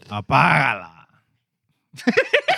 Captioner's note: non-english Speech; laughter